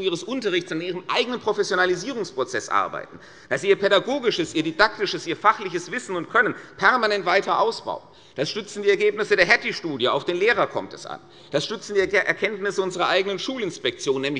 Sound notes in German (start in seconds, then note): none